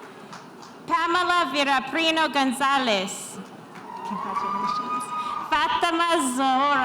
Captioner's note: spectators cheering